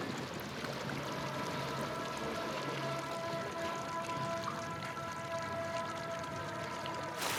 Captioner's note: ominous classical music; water swooshing